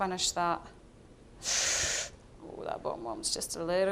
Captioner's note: gasping